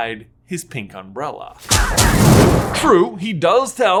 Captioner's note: flames shooting